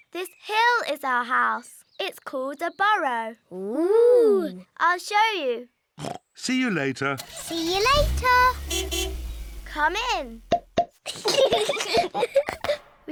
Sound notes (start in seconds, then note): 6.5 snorts; 7.2 horn honks; 11.0 both giggling